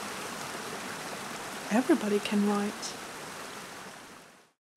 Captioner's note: rushing water